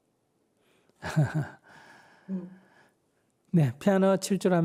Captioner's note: laughter